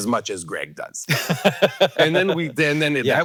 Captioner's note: Hank laughing